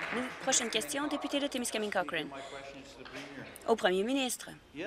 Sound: some Applause

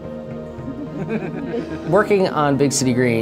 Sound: laughing

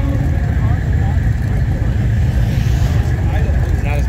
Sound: engine Sounds

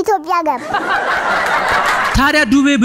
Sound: laughter

